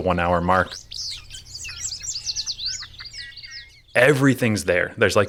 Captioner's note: birds singing